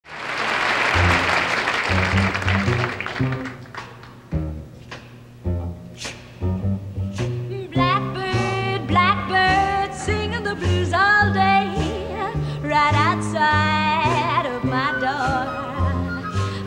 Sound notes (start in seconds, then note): 0.0 audience applauds; 0.7 bluesy music